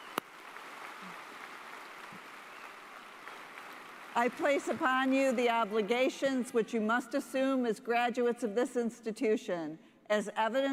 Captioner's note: applause